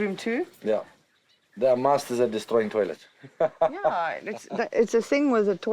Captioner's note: laughs